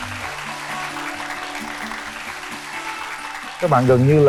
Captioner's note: applause